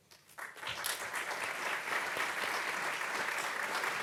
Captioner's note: audience clapping